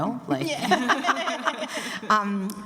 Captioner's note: laughter